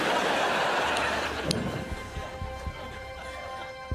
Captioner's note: laughter